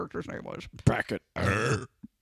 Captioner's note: loud burp